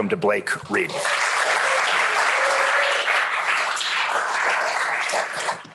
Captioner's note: applause